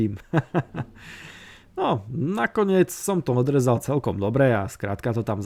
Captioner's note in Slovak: smiech